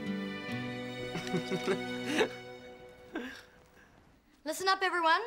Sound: laughing

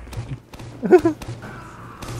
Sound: laughing

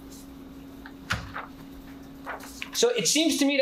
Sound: paper rustling

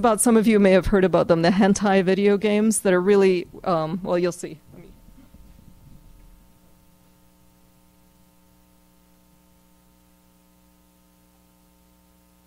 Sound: silence

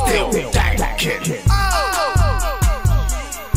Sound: ohhh

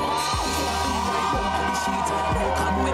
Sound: crowd cheering

